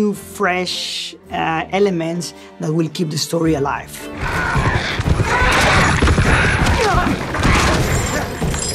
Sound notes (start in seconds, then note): 5.2 beast roaring